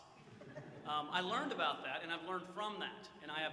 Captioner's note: audience chuckles